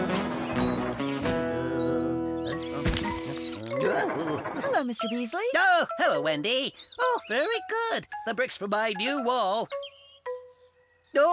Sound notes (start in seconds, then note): 1.8 Mr. Beasley Humming